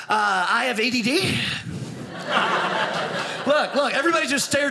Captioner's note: audience laughing